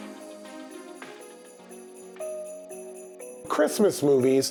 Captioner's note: bells ringing; bright music